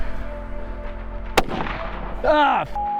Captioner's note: gunshot